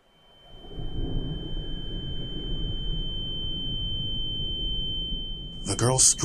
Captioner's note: ringing